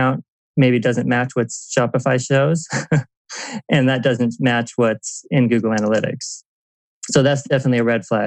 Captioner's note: laughs